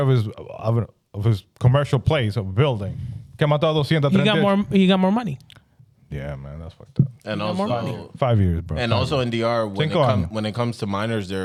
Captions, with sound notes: of his commercial place of building. (Speaking In Foreign Language) He got more money. Yeah, man, that's fucked up. And also-- Five years, bro. And also in DR, when it comes to minors,